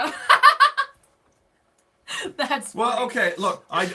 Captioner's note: laughing